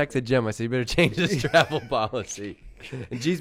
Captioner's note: laughs